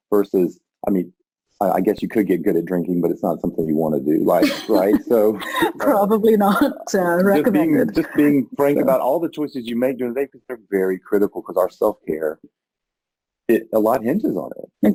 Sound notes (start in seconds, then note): 3.8 chuckles